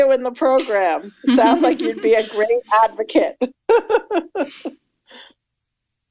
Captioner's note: chuckles